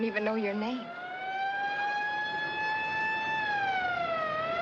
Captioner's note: siren Blaring